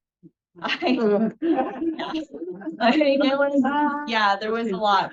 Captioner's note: everyone laughing